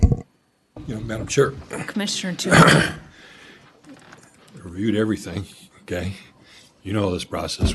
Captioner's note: clears throat